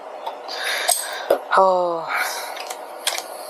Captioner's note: sigh